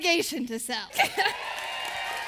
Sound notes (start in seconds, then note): 0.3 laughing; 1.0 applause